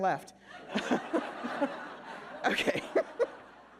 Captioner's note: all laughing